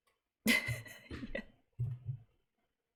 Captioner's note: laughs